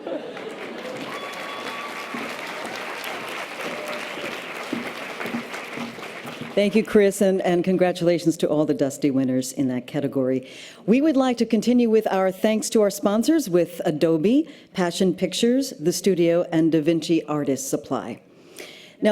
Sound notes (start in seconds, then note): 0.0 laughs; 0.0 audience laughter and applause